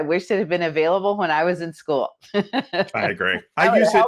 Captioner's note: laughs